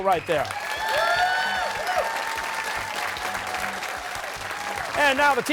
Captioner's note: cheers and applause